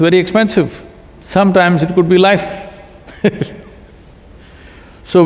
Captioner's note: laughs